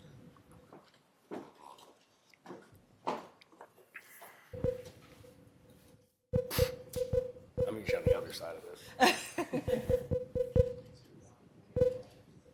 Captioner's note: laughter